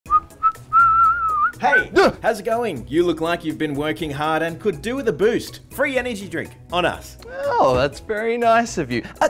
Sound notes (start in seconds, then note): 0.0 whistles; 1.9 gasps